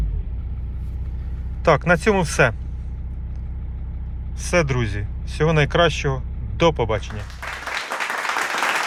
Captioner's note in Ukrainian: оплески